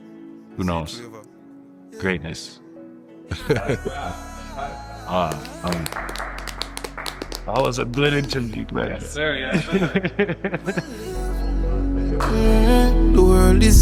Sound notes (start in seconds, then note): 3.3 laughs; 5.1 group claps; 9.4 laughs; 12.1 theme song plays